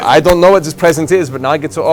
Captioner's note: static